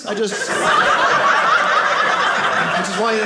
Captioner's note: audience laughing